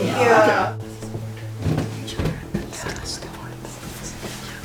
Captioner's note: whispers